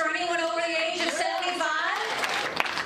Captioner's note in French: applause